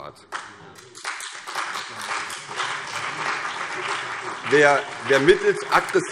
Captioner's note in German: Beifall CDU und BÜNDNIS 90/DIE GRÜNEN